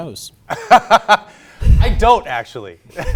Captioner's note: laughs